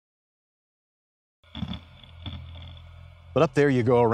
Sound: grinding

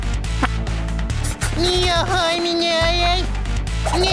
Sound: talking gibberish

